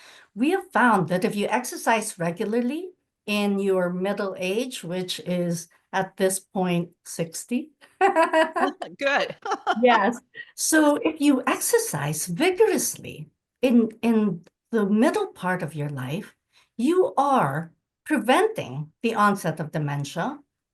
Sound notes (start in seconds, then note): 8.0 laughs